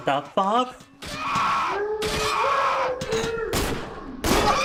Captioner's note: screaming